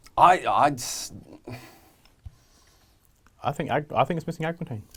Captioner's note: stammering